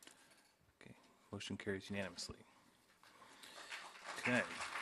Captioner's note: applause